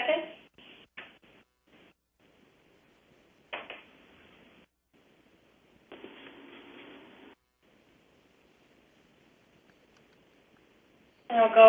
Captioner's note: pause